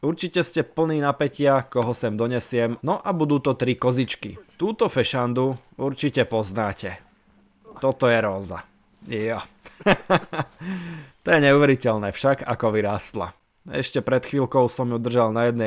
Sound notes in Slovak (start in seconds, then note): 9.6 smiech